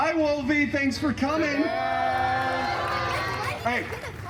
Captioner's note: guests shouting “Goodbye!”